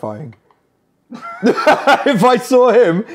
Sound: guys laugh

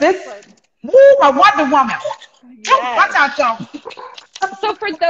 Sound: speaking in foreign language

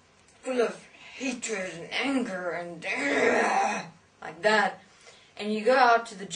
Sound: ahh

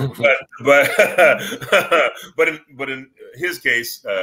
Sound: laughs

